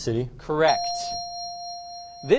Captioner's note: bell dings